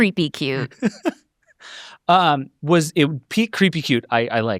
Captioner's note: laughs